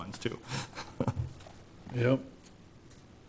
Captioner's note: laughing